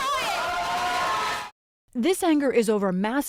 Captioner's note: cheering